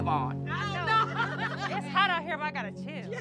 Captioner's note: laughing